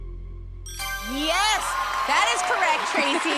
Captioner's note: ding